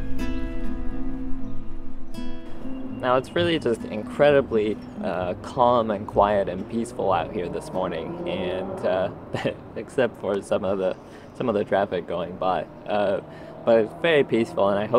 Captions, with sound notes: Now it's really just incredibly calm and quiet and peaceful out here this morning and [loud engine noise] except for some of the some of the traffic going by… but it's very peaceful and I hope